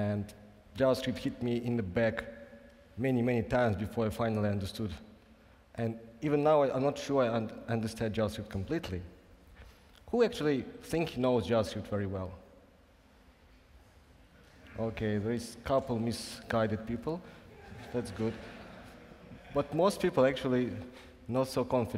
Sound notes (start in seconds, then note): 17.5 laughing